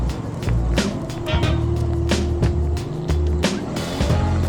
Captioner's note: chill music; engine revving